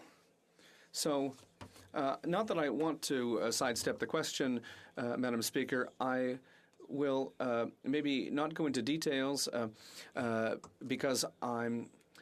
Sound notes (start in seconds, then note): 3.5 speaking French